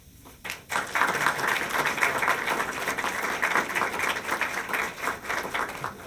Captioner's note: applause